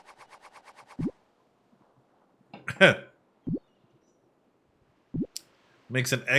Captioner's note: coughs